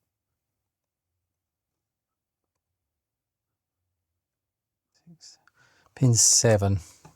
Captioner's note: silence